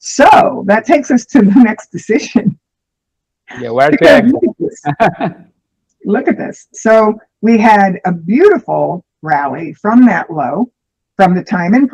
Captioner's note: laughter